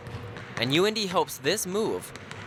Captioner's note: voiceover